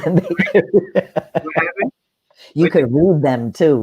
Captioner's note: laughing